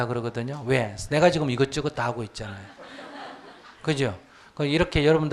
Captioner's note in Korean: 청중 웃음